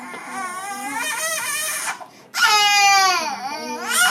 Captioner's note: baby crying